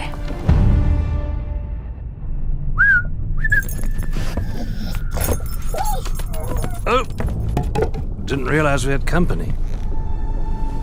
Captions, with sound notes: [MAN WHISTLES] [DOG WHINES] Oh, didn't realize we had company.